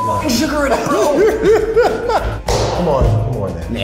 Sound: laughing

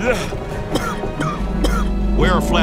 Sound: officer coughing

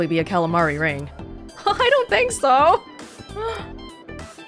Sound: chuckles

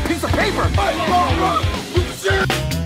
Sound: bee helpers yelling at tree

